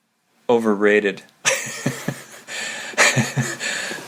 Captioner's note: laughing